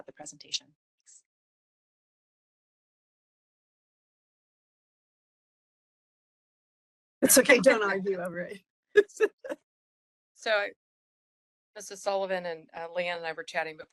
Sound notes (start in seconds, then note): 9.0 laughing